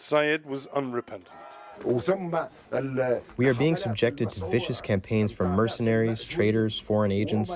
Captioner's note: through translator